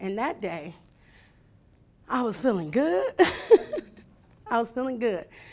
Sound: laughing

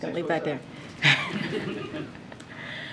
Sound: laughter

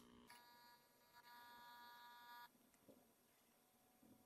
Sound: tape whirring

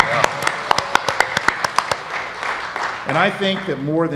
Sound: applause

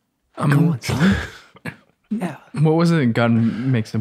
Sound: chuckles

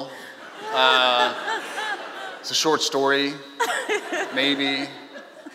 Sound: laughing

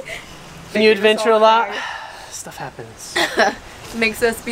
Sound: sighs

